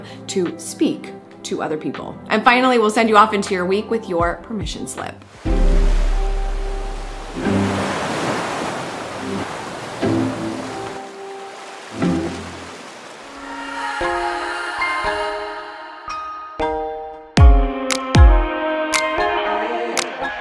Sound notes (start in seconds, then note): 5.7 water waves; 14.9 upbeat music